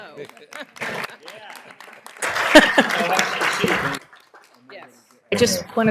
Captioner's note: applause